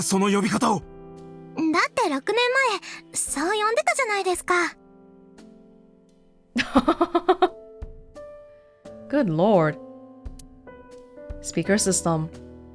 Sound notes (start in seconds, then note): 6.6 chuckles